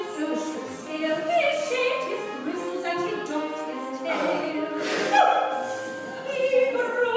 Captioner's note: A cry of monkey-pain from CYRIL